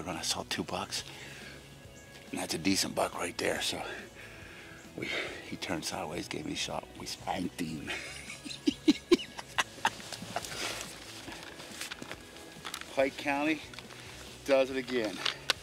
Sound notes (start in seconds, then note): 7.8 giggling; 9.4 rustling; 15.4 snow crunching; 15.4 subdued music